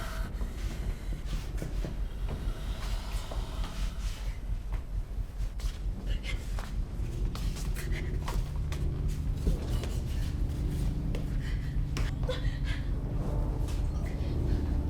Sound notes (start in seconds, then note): 0.0 tense music; 7.4 Belle panting; 12.1 Belle crying